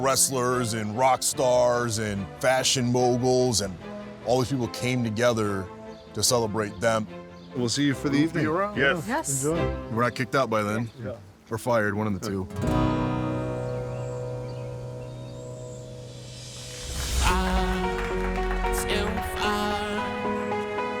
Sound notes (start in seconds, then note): 17.1 guests clapping; 18.6 upbeat music playing